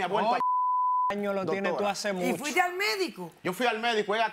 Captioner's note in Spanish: Bip